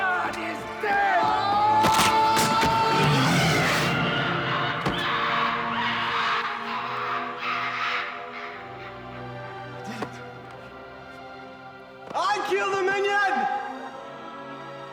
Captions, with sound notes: God is dead! (Bernard screams) (minion growls) (wild animal squawks) - I did it. I killed the minion!